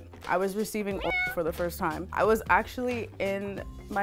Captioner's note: cat meows